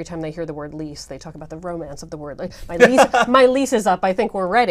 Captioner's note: laugh